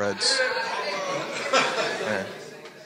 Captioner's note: audience members chattering all together